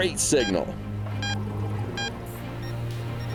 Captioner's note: beeping